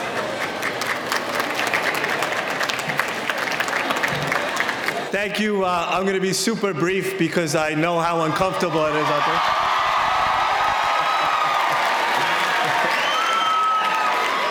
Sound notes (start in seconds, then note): 0.0 applause; 9.8 audience cheering